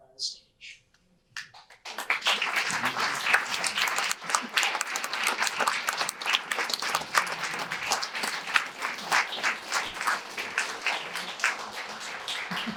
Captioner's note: audience applause